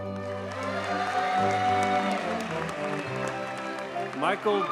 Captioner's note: audience cheers and applauds